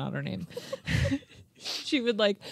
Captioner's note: chuckling